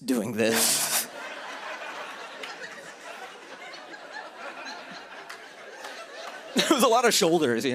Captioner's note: laughter